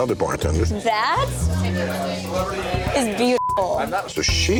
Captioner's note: beep